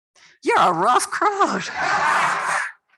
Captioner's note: laughter